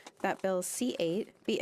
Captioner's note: speaking French